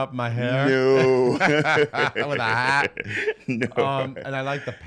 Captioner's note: laughs